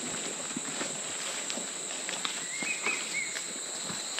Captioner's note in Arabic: النقيق السيكادا